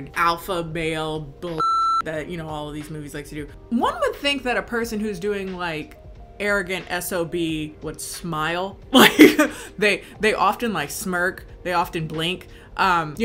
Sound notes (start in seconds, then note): 1.6 beep; 9.0 laughs